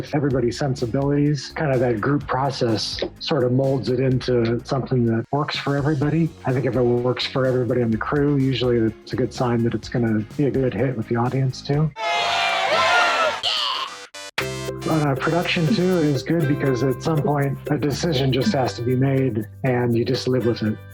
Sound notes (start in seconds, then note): 11.9 all cheer